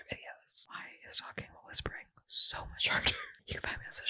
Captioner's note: laughing